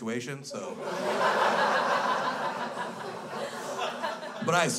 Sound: crowd laughs

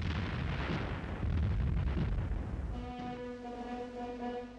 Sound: bombs exploding

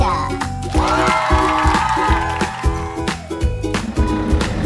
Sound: crowd cheering and applauding

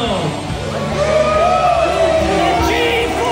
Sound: crowd cheering

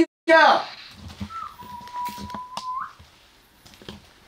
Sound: whistle

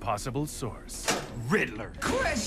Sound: lock clicks

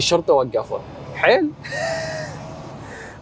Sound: laughing

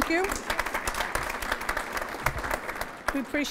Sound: applause

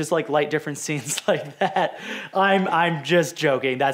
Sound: laughs

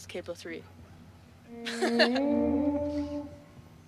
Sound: laughs

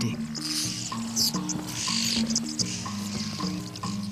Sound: chirping

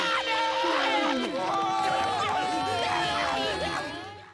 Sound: screaming

